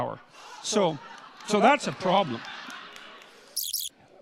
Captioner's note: audience laughter